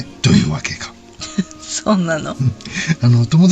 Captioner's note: laughs